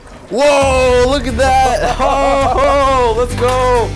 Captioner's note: both exclaiming